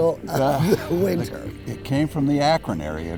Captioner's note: chuckles